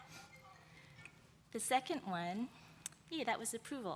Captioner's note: phone ringing